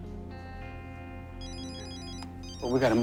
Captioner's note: cell phone rings